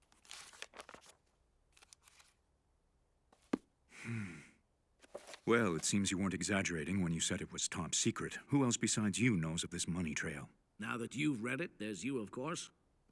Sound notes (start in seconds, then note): 3.9 sighs